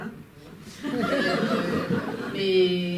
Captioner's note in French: rires